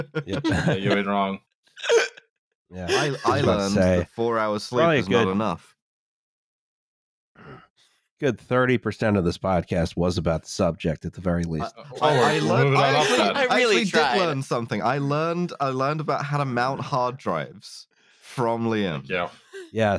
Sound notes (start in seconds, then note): 0.0 laughter; 11.6 laughs